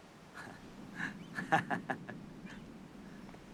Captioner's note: Смеётся